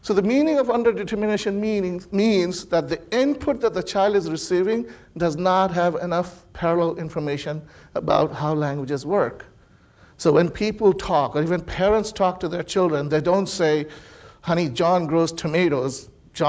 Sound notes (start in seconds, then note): none